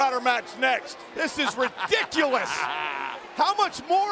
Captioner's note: laughing